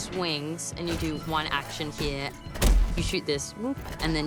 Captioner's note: device chiming